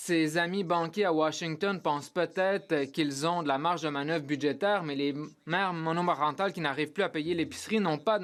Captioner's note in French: voix de l'interprète